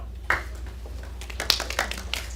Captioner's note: applause